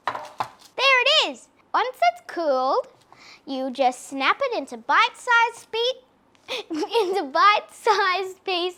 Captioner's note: laughs